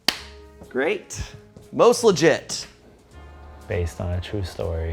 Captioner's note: claps